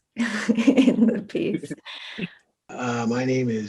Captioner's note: chuckles